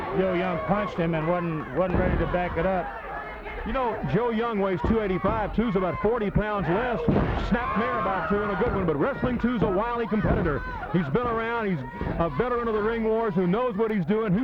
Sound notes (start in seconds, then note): 0.0 blows thudding; 2.1 body thudding; 6.6 body thudding; 8.4 hands thudding